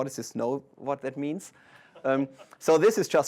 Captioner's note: laughter